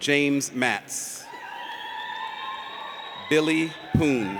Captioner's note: audience cheers